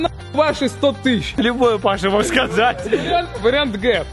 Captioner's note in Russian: смеется